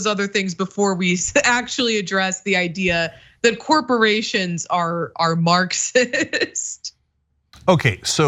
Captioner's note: laugh